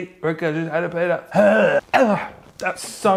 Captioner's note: gagging loudly